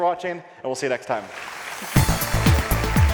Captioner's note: audience applauds; upbeat music